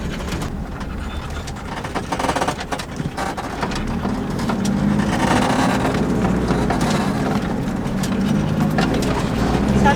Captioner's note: crunching car sounds in the background